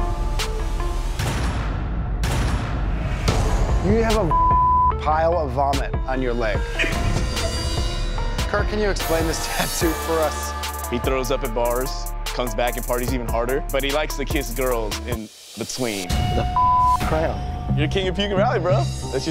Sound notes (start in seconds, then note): 4.2 beep; 16.1 beep